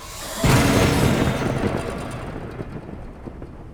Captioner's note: lightning strike